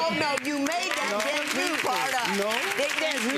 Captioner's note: audience applauds